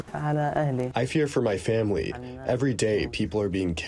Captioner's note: through translator